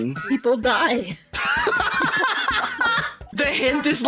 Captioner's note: cackling